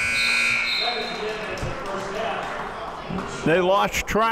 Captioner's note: buzzer ringing